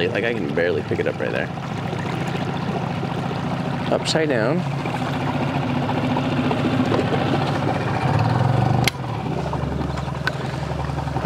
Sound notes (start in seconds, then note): 5.4 motor rustling